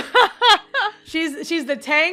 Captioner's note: Rover laughs